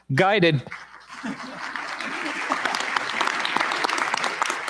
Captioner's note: applause